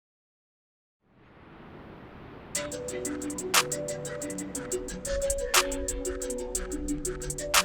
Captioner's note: waves roar; upbeat music